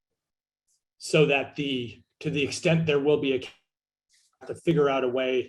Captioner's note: audio blurs